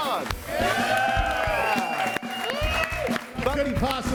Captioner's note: audience cheering and applauding